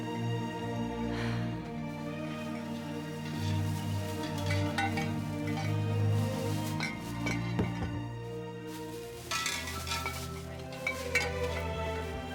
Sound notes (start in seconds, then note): 1.1 sighs; 3.9 glass clinking; 4.3 gentle music